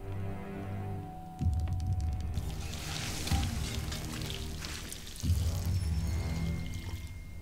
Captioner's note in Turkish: Ateş cazırdama sesi; Müzik - Gerilim